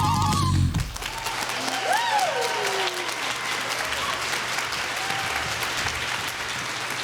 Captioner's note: applause